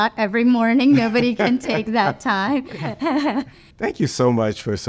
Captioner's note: laughs